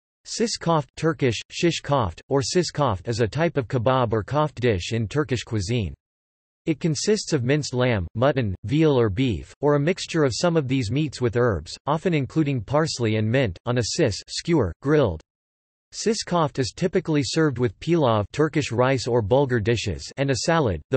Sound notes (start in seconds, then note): 1.3 Turkish